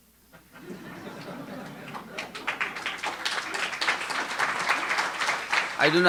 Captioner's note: audience laughing and applauding